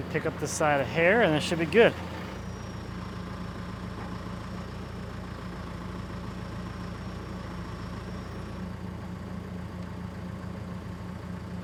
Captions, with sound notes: Pick up this side of the hair and that should be good. (engine running calmly)